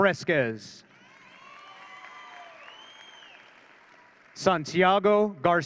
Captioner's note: audience cheering